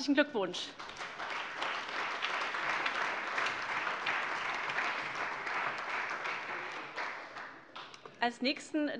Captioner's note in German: Beifall